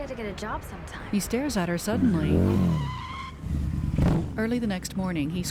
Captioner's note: engine Revs, Brakes Squeal; engine Stops; siren Approaching